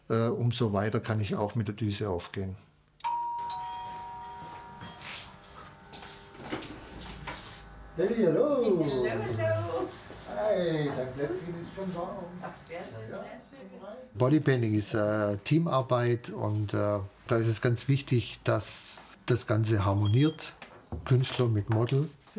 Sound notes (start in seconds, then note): 3.0 doorbells